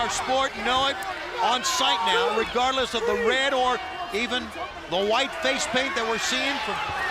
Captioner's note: crowd chatter